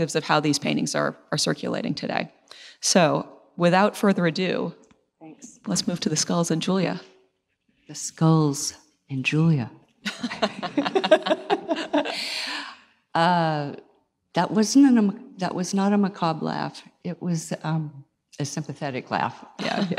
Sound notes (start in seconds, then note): 10.1 laughs